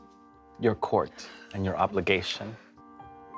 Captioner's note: surena exhales